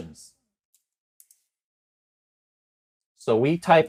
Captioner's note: mouse clicks